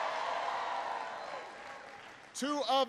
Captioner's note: applause